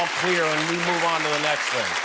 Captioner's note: applause